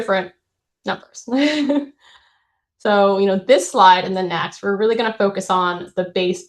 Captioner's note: chuckles